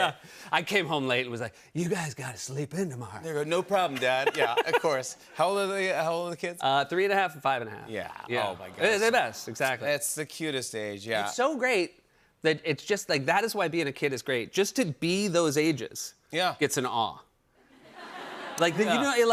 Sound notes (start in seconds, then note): 8.3 audience aws; 17.8 laughter